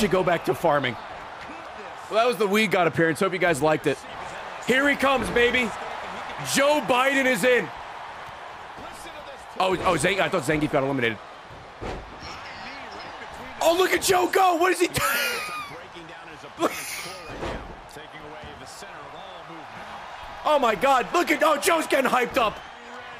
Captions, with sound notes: go back to farming. Well that was the Weedgod appearance. Hope you guys liked it. Here he comes, baby. Joe Biden is in. Oh, oh Zan-- I thought Zangief got eliminated. Oh look at Joe go! What is he doing? (laughs) Look-- Oh my God, look at-- Oh Joe's getting hyped up.